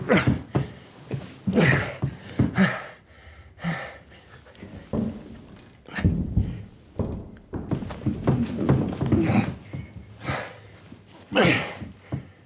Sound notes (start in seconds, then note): 0.6 Ulysses grunting; 1.5 Ulysses panting